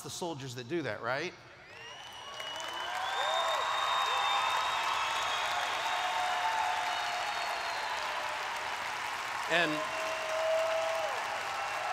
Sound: cheers

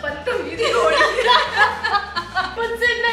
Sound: laughing

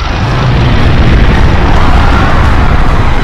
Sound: screaming

